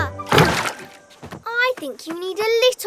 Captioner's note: water sloshes; paddleboard thuds